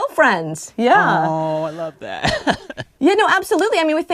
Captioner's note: laughter